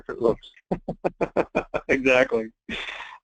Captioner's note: laughing